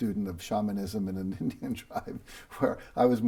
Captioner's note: laughs